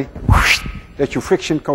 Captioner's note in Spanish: Hace sonido sibilante